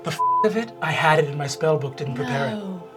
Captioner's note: beep